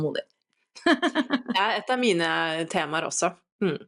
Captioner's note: laughter